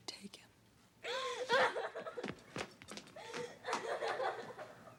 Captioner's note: Caddie sobbing